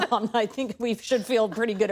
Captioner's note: laughter